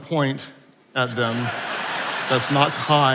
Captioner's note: attendees laughing